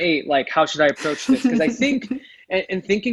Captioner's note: laughs